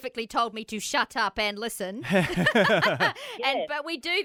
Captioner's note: laughter